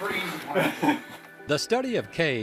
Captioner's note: laughter